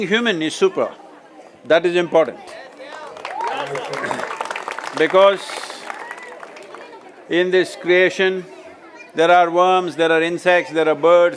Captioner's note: cheering/Applause